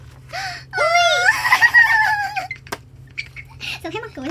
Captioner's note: animals noises again